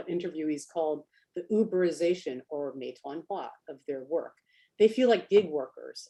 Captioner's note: speaks Chinese